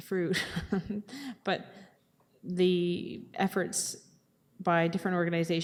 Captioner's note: chuckling